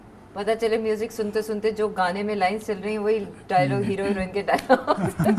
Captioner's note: chuckles